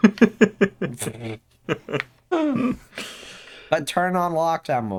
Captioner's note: start chuckling